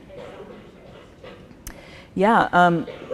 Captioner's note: coughing drowns out speaker